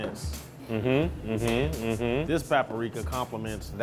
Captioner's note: hums in agreement